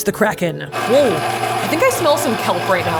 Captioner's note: mixer whirling